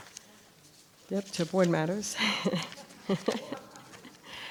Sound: chuckles

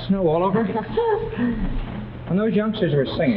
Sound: julie laughs

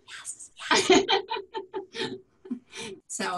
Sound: laughter; whispers

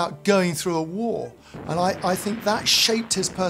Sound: water whooshing; grenade exploding

